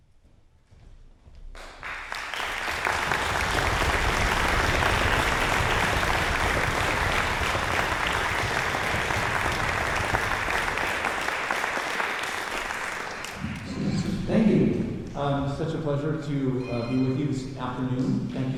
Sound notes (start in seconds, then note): 1.5 more applause